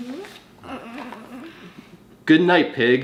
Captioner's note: cooing